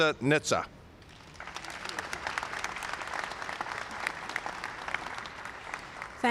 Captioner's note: applause